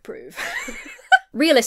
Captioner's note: laughs